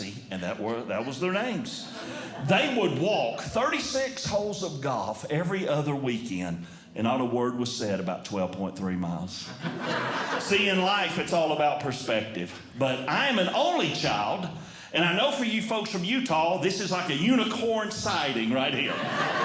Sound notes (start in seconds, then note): 9.4 audience Laughing; 18.6 audience Laughing